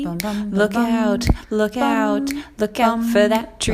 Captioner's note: none